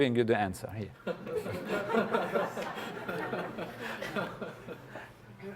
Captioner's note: laugh